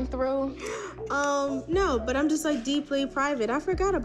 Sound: gasp

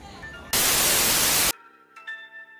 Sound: TV static

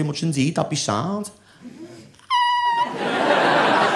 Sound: squeals

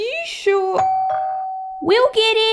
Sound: doorbell

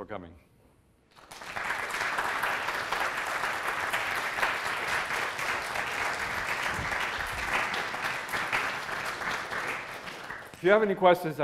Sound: applause

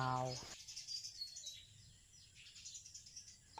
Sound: birds chirping

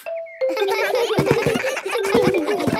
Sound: giggles

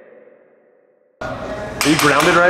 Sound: hammering

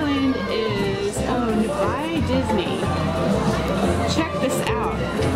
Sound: voiceover

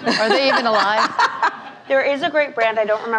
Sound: laughing

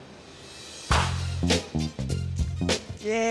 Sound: man claps

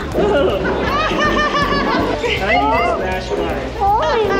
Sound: laughs

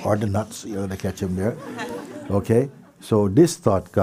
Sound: laughter

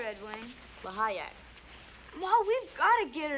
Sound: speaking in foreign language

